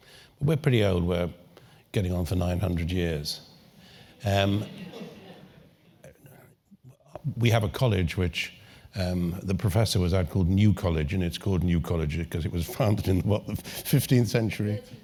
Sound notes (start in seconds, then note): 4.6 laugh